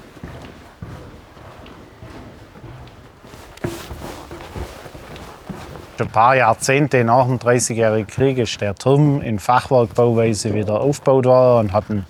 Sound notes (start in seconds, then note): none